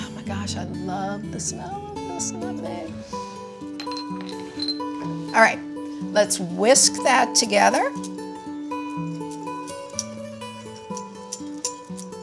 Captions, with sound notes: Oh, my gosh, I love the smell of this nutmeg. All right, let's whisk that together (whisk scraping)